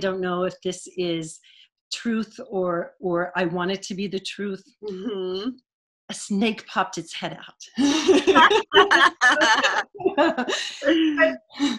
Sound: laughter

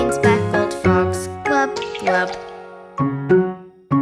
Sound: water splashing; quirky piano music

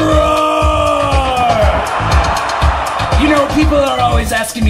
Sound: audience ROARS

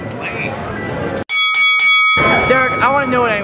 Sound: bell ringing

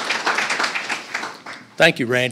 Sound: applause

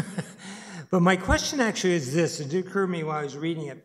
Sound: chuckles

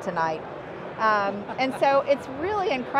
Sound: laughing

